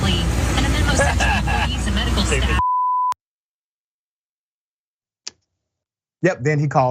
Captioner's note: laugh